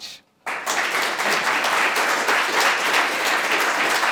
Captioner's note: audience applauds